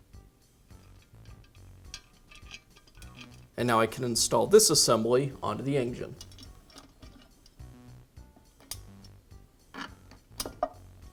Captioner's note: pause 00:13:41